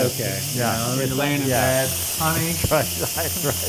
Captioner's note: laugh